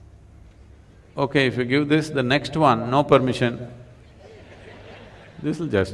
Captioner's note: laughter; 笑聲